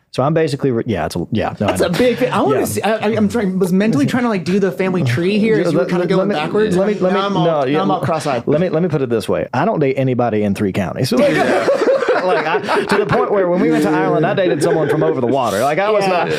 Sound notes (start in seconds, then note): 11.2 laughing